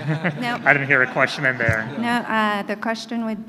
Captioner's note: laughter